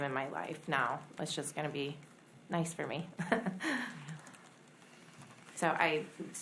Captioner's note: laughs